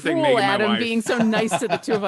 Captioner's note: laughing